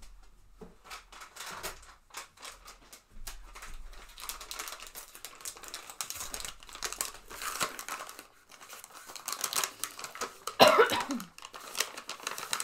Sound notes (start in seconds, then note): 0.6 paper crinkling; 4.6 coughs